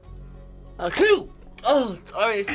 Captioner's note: sneezes